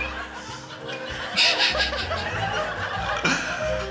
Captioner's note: snorts